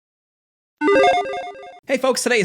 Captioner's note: graphics blipping